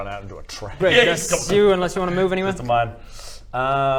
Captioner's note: boof